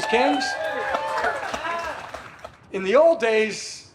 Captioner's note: audience claps and cheers